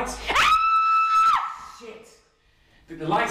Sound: Ava screams

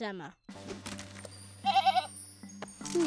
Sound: bleating

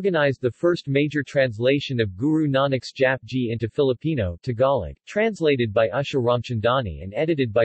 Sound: Tagalog

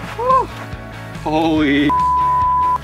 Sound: beep

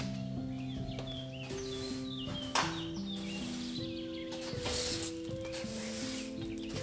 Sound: sweeping

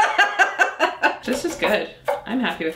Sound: laughs

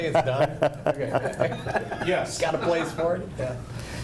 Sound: laughs

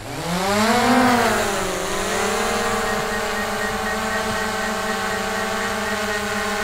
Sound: drone sound

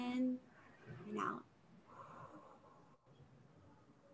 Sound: exhales

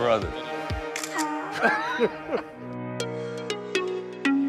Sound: camera shutters; upbeat music

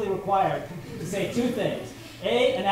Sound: laughter

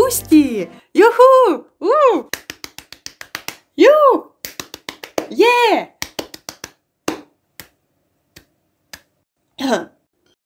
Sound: joyful applause

